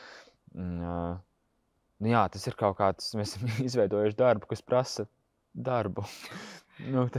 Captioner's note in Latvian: Smiekli